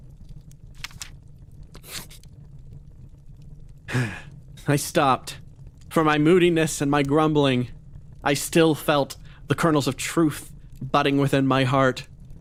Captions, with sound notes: [Etete Sigh] I stopped For my moodiness and my grumbling I still felt the kernels of truth budding within my heart